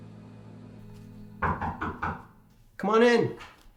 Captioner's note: door knocking